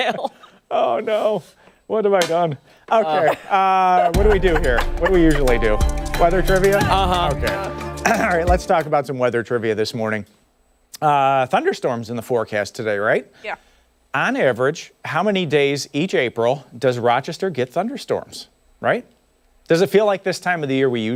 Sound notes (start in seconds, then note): 2.1 laughter